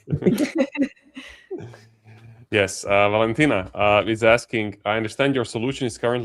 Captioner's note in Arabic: ضحك